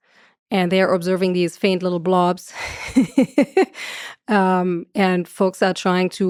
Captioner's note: laughs